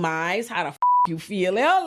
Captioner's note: beep